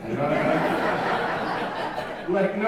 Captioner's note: audience laughing